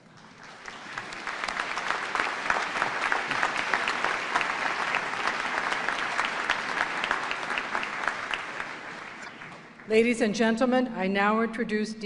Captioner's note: applause